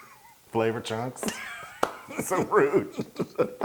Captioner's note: laugh